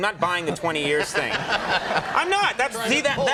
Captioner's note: audience laughing